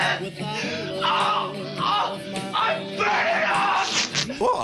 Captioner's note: groaning